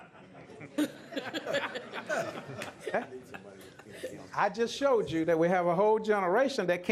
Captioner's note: laughter